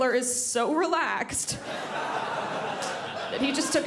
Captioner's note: crowd laughs